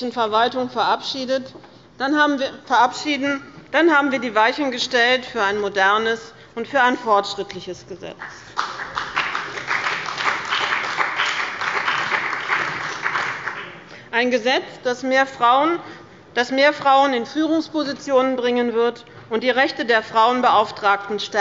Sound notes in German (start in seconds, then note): 8.2 Beifall bei dem BÜNDNIS 90/DIE GRÜNEN und der CDU